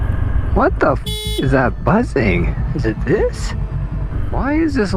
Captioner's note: beep